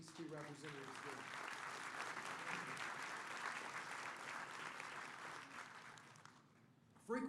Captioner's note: applause